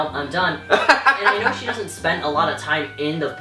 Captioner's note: laughter